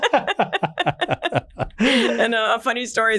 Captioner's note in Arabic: كلاهما يضحك